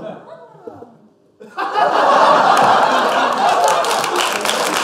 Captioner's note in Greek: παλι ακουγεται λυπημενο επιφωνημα απο το κοινο; γελια και χειροκροτημα